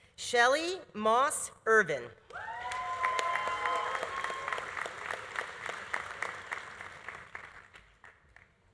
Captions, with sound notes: Shelley Moss Ervin. (audience applauding) (audience cheering)